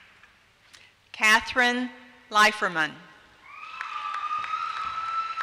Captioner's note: applause